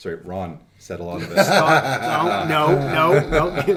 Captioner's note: laughing